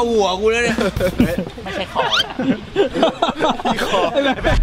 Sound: laughs

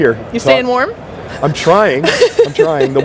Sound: laughs

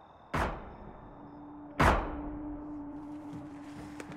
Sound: metallic thuds

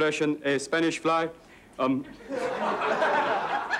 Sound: laughter

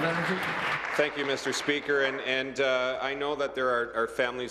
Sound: applause

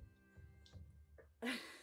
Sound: laugh

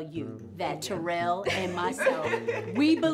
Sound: laughs

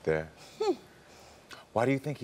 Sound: chuckling

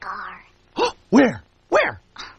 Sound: Nuka's gasp

